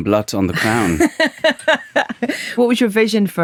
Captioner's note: laughing